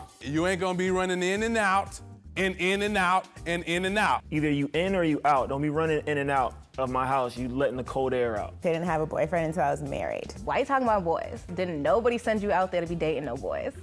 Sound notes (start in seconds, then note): none